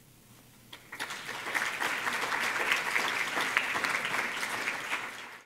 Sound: applause

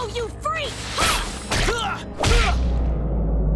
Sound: grunting

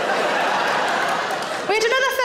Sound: audience laughs

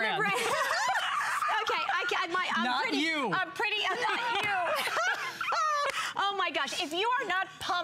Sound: laughter; laughter

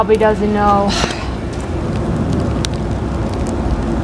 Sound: sighs

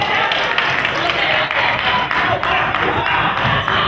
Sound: crowd claps

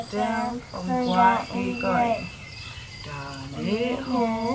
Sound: speak in foreign language

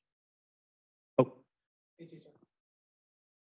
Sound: silence

